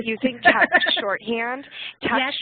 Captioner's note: laugh